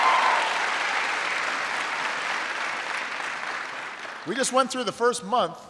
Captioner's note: applause